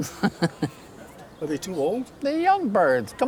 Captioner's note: chuckles